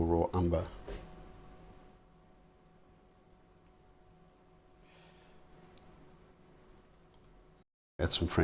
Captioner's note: silence